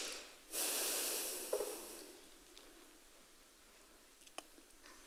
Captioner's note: woman in white sighs